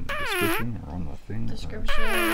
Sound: farting sound; farting sound

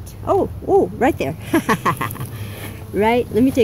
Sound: laughs

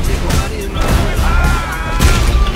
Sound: Neil exclaims

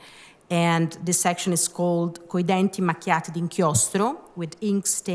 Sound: speaking italian

